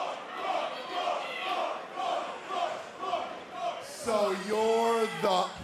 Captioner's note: fans chanting